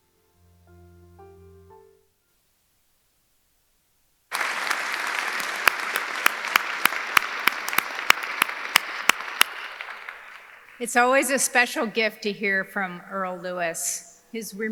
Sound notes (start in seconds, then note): 0.0 gentle music; 4.3 audience cheering; 4.3 audience applauding